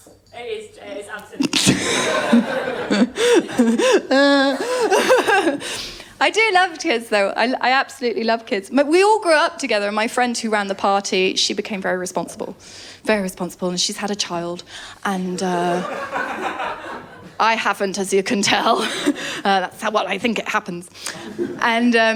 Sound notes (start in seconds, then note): 1.4 laughter; 15.6 laughter